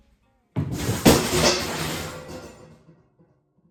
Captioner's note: loud crash